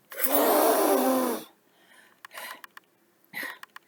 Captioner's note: blows hard